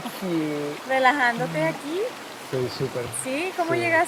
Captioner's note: speaks in Spanish; in Spanish